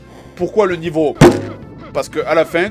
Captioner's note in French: Bump